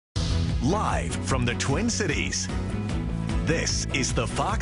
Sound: voiceover

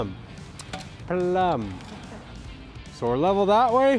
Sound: camerawoman laughing

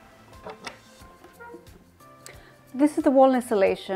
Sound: wooden doors opening and creaking

